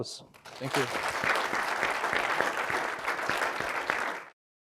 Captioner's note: all clapping